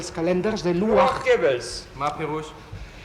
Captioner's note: in hebrew